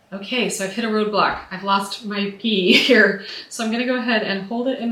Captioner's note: laughs